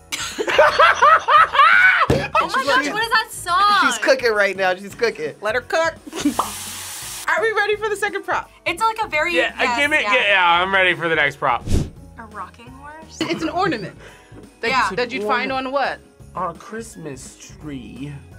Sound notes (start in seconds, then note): 0.1 both laugh; 6.0 food sizzling